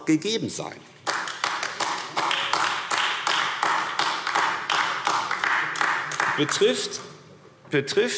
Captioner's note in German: Beifall AfD